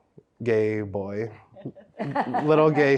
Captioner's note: everyone laughs